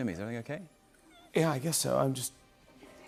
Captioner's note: voice breaking